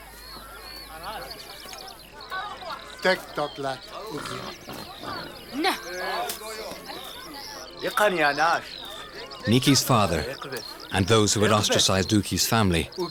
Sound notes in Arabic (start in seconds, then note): 3.0 الصوت المنطوق البدوي